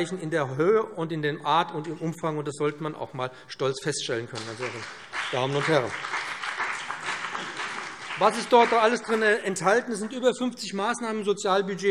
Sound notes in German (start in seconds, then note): 4.3 Beifall BÜNDNIS 90/DIE GRÜNEN und CDU